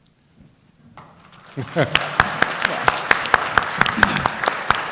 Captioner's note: applause